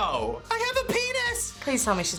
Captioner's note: high-pitched voice